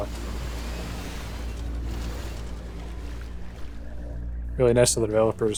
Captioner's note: ineffective vacuuming noises